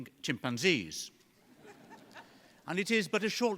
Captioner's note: laughter